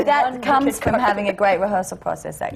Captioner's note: laughter